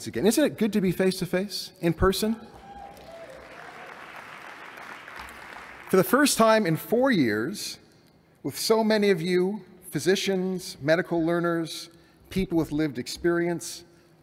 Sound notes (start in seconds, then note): 2.4 cheering; 2.5 applause